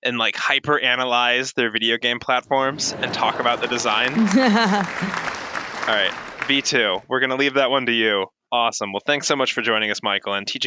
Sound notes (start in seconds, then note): 4.0 laughter and applause